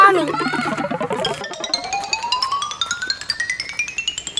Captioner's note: cartoony blooping